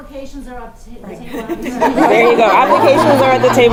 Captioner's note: laugh